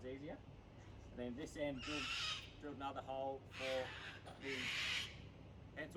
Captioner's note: squawk